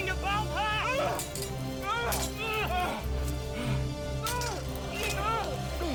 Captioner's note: shouting, swords clanging